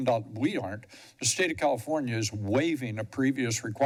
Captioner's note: none